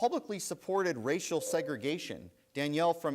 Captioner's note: bell rings